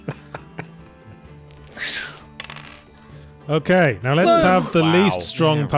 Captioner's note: laughter